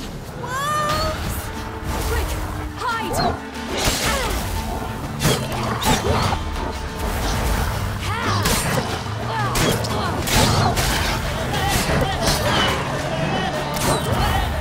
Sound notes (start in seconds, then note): 10.8 wolves snarling, growling